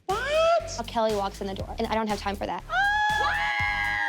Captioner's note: squealing